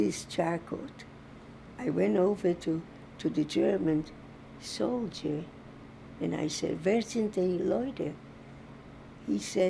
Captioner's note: german